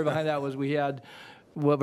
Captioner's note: laughter